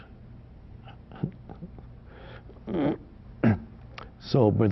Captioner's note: Eckhart chuckles